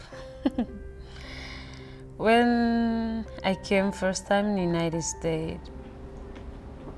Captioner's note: chuckles